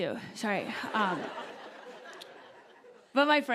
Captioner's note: laughter